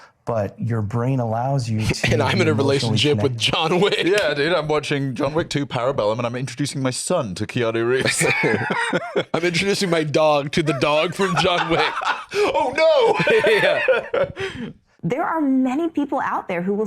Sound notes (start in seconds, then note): 13.7 laughs